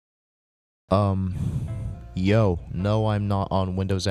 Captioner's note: exhale